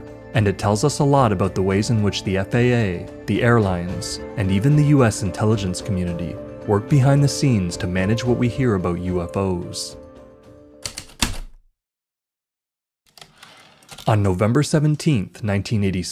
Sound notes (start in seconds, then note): 10.8 heavy typewriter keystrokes, typewriter return slide, ♪ atmospheric